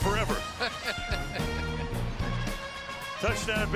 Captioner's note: laughs